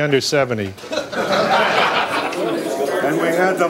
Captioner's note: group laughing